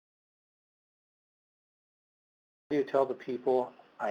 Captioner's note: audio cuts out